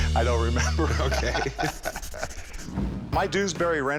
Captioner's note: both laugh